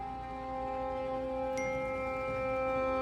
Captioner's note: phone dings